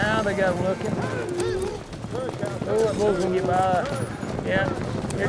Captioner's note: hoofbeats, cows mooing